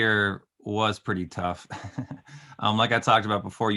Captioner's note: laughing